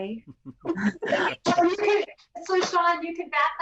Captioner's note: everyone laughs